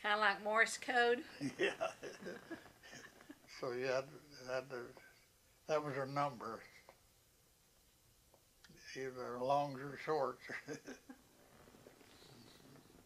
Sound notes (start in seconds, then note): 3.9 laughter